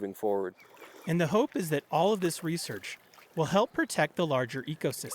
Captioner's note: voice-over